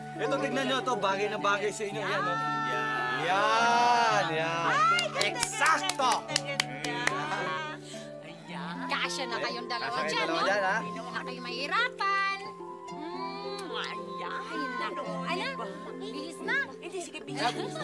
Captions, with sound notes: This one looks good on you. -Here you go. -Exactly for you. It's so beautiful! You two fit in there together. It will be easier for you. [kisses] There! Let's get dressed. All right, get dressed.